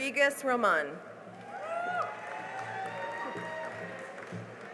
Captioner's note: cheering and applause